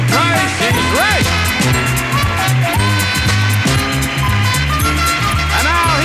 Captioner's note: audience applauding and upbeat music continues